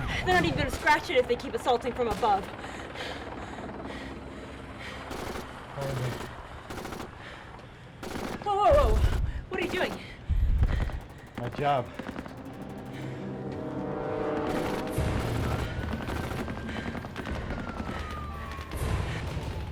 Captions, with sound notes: They're not even gonna scratch it if they keep assaulting from above. (guns firing) Whoa, whoa, whoa. What are you doing? - My job. (suspenseful orchestral music) (guns firing)